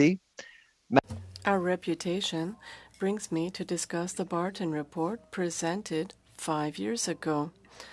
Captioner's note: speaking French